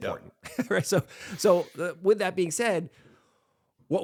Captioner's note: laughs